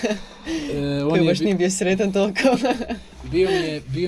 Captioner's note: laughing